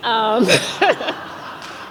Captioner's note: laughs